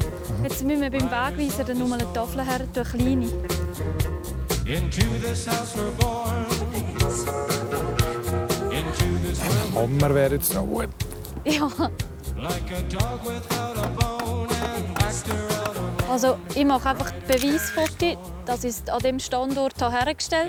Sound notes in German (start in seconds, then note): 11.1 Lachend